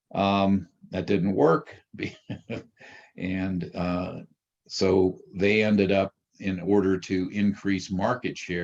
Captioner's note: chuckles